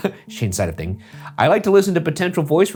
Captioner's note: chuckling